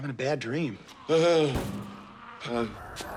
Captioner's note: moans; snarling, banging